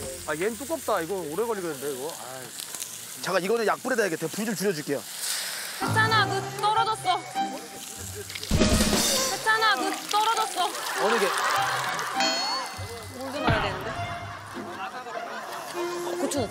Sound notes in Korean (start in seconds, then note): 8.7 콸콸콸